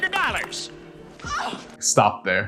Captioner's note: woman moaning